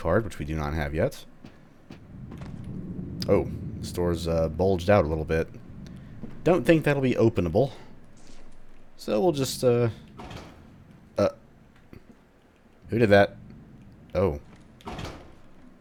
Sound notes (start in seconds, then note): 11.0 door closes